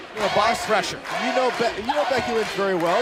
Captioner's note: fans chanting